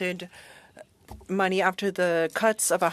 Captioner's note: speaking French